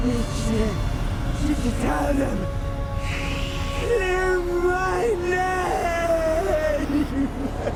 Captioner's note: sobbing